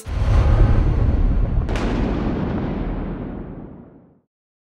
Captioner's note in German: impact